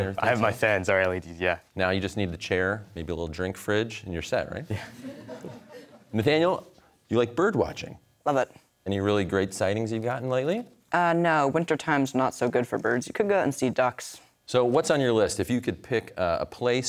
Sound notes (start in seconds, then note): 4.7 chuckling; 4.8 audience laughter